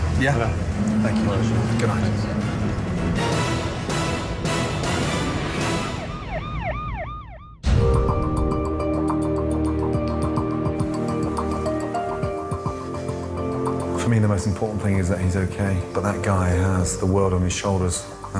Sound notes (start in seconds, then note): 3.2 dramatic music; 3.2 siren wails